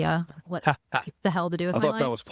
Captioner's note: laughing